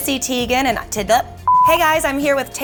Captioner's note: beeps